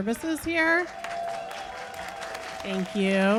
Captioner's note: cheers and applause